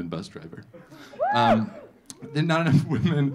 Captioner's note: audience laughing; audience cheering